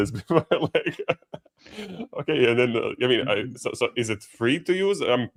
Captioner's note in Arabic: ضحك